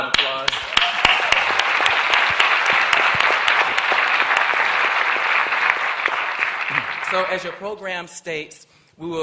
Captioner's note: applause